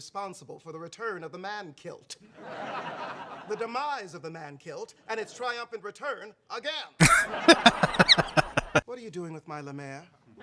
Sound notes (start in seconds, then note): 7.0 laughing